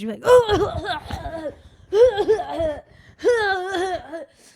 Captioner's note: coughing